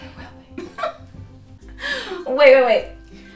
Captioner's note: laughs